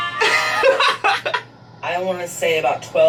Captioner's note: laughing